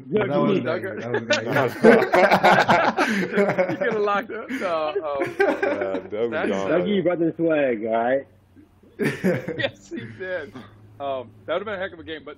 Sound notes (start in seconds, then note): 0.9 laughter